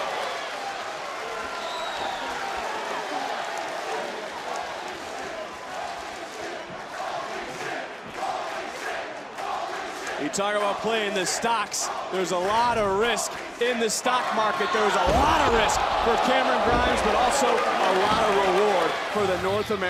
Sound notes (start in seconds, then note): 0.3 crowd cheers; 4.7 crowd chants "holy --"